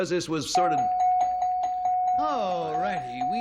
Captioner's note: dings